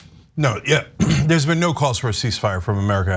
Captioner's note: cough